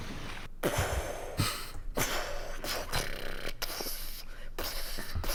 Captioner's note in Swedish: explosion från personen mun